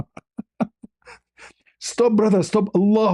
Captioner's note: ketawa